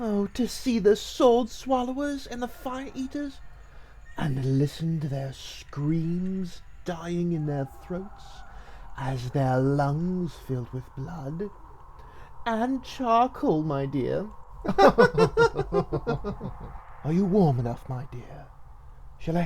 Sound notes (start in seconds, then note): 14.6 both laugh